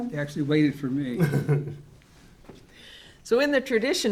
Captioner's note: laughs